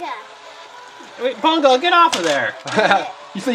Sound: laughs

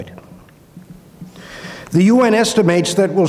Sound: inhales

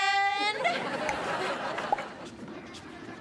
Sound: audience laughing

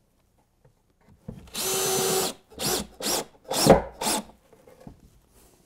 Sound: screw gun

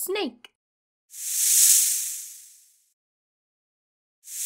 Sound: snake hissing

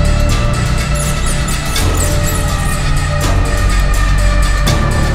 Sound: mouse squeaking

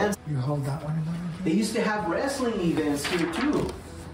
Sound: background chatter

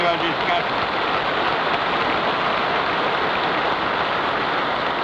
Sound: applause

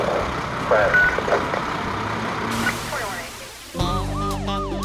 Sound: truck engine roaring; radio beeping; siren wailing; upbeat music

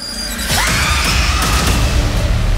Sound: screaming

